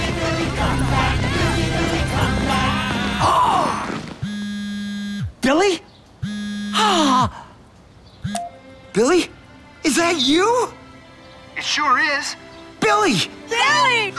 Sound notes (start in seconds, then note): 2.1 cell phone vibrating; 2.1 gasps; 6.7 exclaims